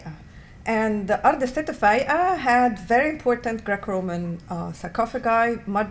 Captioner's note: non-english